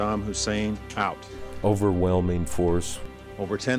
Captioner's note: voiceover